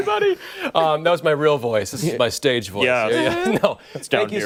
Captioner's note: laughter